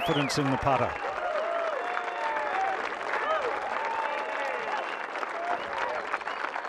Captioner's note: cheers and applause